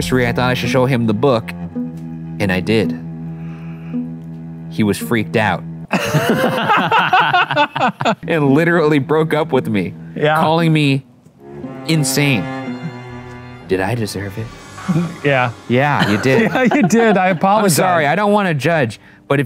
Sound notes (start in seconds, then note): 5.9 both laugh